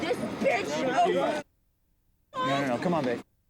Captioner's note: muted